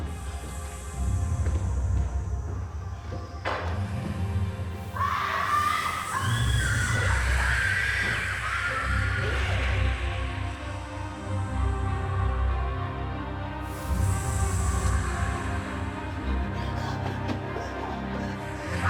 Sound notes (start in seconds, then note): 4.8 screaming; 7.7 dramatic music